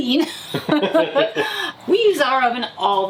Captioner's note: both laughing